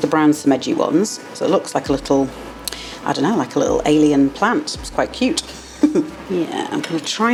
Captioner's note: laugh